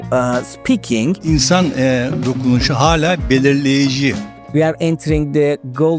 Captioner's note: man speaking Turkish